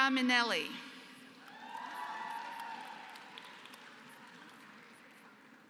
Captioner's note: applause